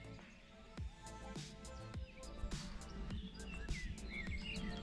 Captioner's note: birdsong & music